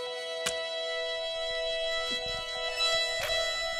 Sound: stabbing

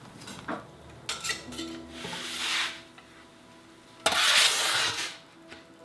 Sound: crisp pizza sliding

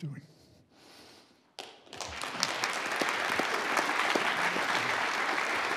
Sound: audience applauds

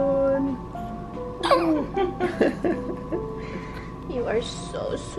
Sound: crying

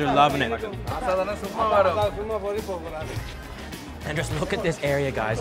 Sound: speaking foreign language

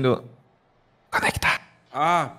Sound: whispering

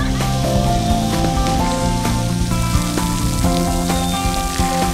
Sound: water hitting the ground

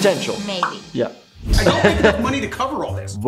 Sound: laughing

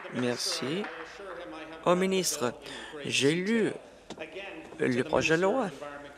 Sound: applause

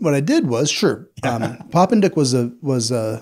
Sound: laughs

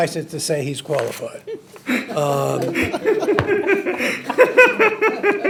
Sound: trustees laughing

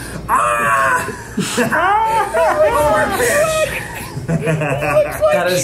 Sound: group laughing

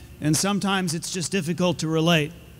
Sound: none

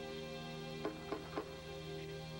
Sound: knocking

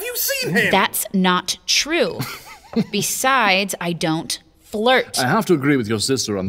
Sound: through teeth

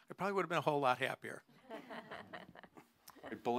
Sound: laughter

